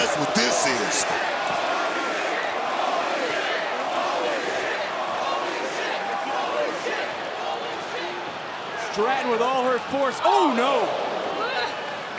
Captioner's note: applause